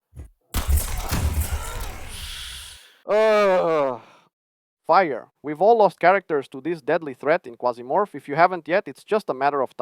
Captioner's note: explosion